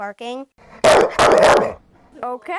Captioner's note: recording of dog barking